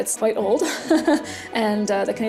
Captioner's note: chuckles